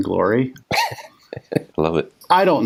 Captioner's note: laughs